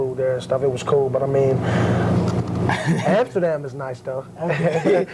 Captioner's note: laughter; laugh